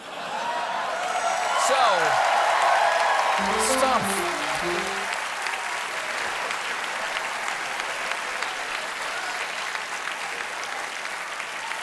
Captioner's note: cheers and applause